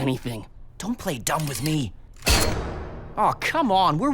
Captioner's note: metallic clank